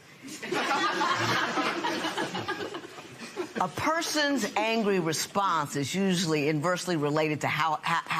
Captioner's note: laughter